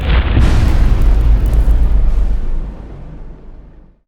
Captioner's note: impact